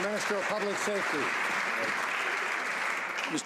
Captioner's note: some Applause